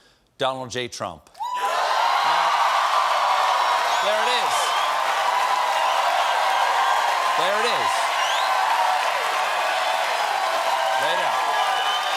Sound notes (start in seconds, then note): 6.0 cheers and applause